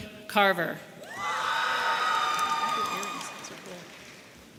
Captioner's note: audience cheering